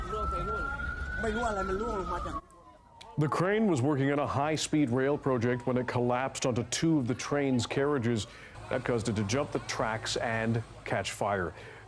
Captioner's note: sirens